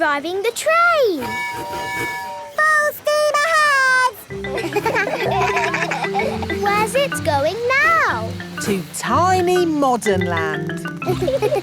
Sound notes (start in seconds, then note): 1.2 tooting; 4.7 kids laugh